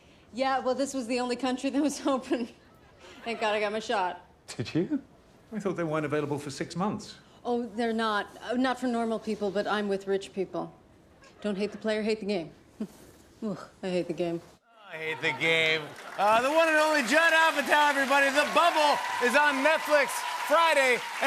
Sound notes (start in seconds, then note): 12.7 chuckles